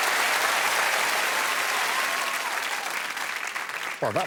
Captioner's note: cheering and applause